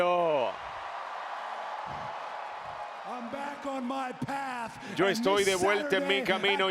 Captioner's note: applause